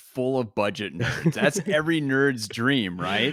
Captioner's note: laughs